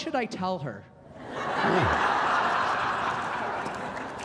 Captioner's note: laughter